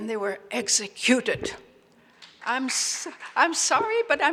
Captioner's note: audience applauds